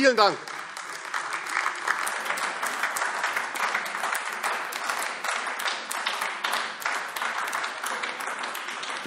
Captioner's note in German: Beifall AfD